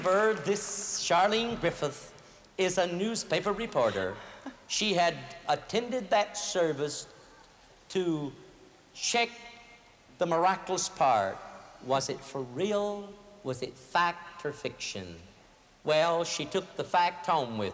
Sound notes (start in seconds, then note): 3.7 giggles